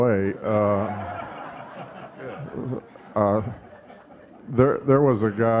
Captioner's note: audience laughing